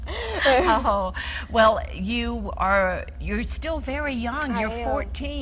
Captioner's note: laughing